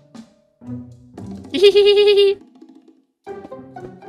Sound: laughing

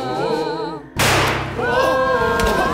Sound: gunshot

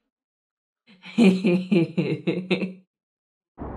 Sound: laughs

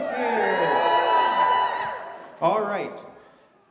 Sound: audience cheers

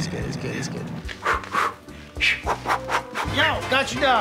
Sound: swishing

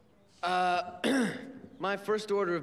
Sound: clears throat

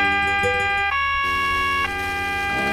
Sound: police siren

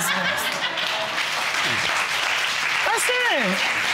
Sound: laughter

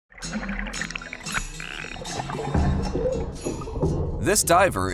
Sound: water gurgling; gentle music

